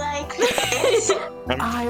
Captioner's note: laughter